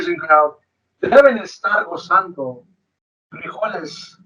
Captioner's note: speaks foreign language